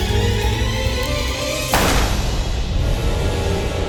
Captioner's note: gun firing; light haunting music